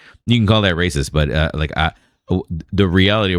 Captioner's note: uh